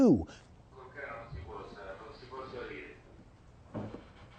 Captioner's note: speaking italian